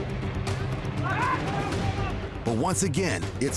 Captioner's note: men yelling worryingly